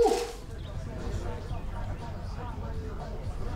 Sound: chatter

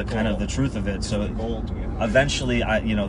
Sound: mumbles

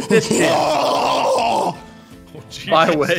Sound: banshee screaming

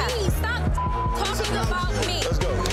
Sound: beep

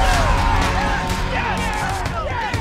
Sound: cheering

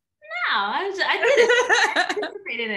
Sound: laughing

